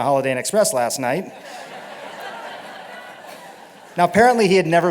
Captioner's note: laughter